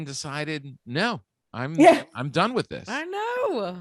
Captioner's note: Lisa chuckling